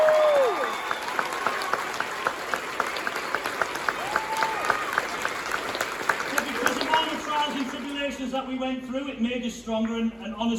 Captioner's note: cheering & applause